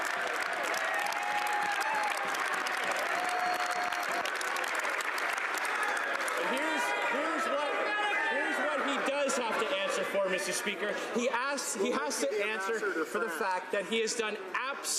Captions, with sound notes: WON'T HAVE TO ANSWER TO QUESTIONS HE DOESN'T LIKE. [ Applause ] >> HERE'S WHAT HE DOES HAVE TO